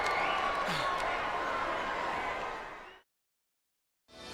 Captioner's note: audience cheering